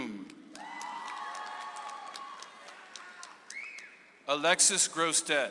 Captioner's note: audience applauds